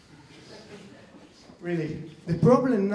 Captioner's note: laughing